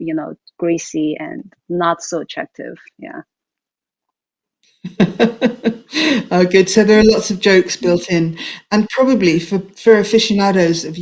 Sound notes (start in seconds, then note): 4.8 laughing